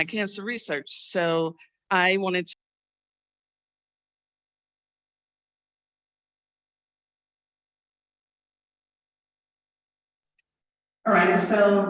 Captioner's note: silence due to technical difficulties